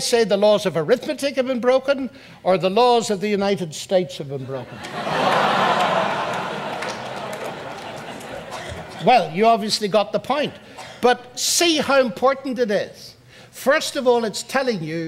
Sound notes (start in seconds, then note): 7.0 audience laughs